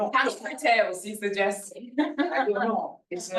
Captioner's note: chuckles